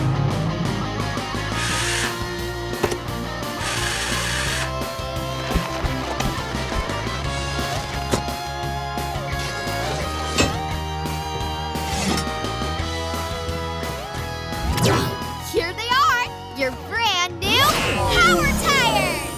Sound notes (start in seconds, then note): none